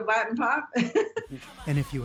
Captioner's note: laughter